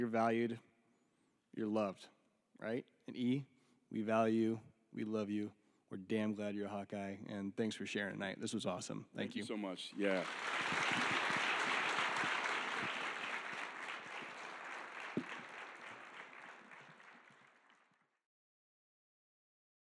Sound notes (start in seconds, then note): 10.0 audience applauding